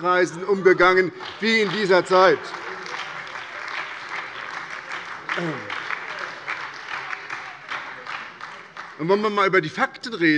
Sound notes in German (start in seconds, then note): 3.1 Beifall bei der SPD